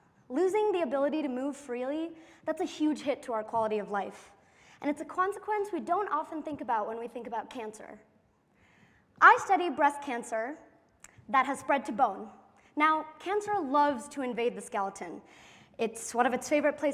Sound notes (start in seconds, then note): none